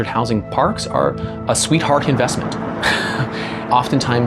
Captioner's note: laughs